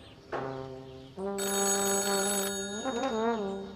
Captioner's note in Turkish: Telefon zili sesi